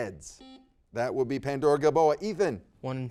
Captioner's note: buzzer dings